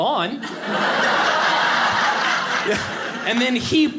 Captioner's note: audience laughing